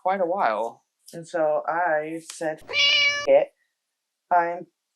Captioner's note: meow